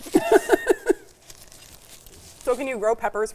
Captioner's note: laughing